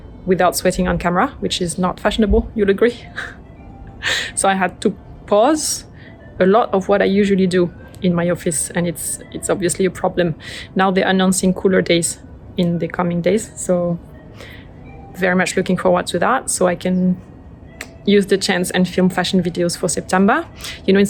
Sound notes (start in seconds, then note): 3.0 laughs